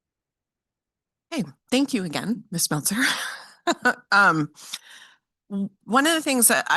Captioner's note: chuckles